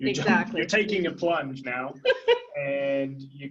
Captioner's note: laughing